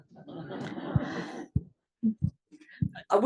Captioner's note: laugh